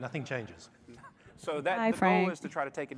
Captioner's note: laughter